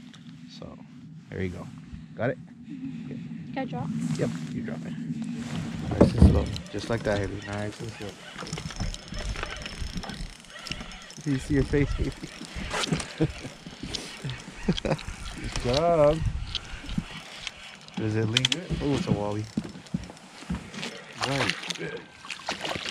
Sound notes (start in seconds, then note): 6.2 reel cranking; 8.2 reel cranking; 12.7 laughing; 20.6 fish splashing